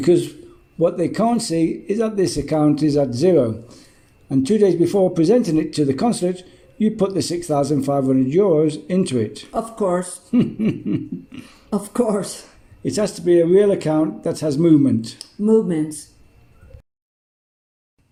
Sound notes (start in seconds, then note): 10.3 laughs